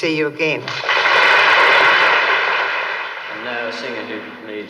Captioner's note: audience applauds